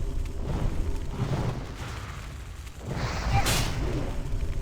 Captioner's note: grunts